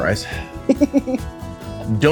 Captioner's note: laughing